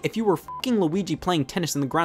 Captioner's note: beep